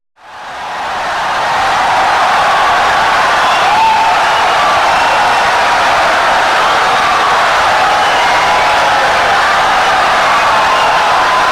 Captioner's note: wild applause and cheering for 17 seconds